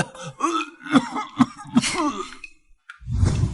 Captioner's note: cough cough